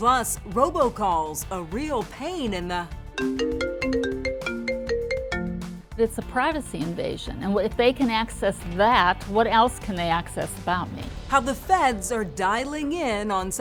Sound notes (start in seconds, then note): 3.2 cell phone chiming